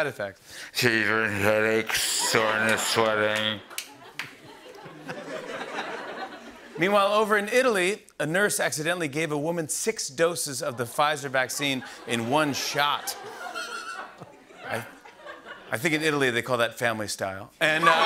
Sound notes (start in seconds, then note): 3.3 laughter and applause; 13.2 laughter; 17.7 laughter and applause